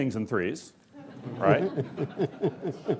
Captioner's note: laughing